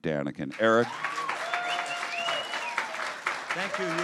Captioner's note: applause and cheering